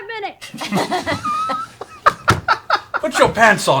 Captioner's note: laughter